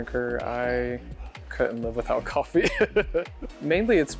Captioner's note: laughs